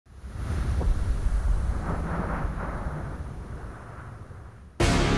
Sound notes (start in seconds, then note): 0.0 wind noise